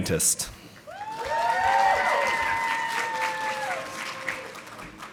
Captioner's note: audience applauding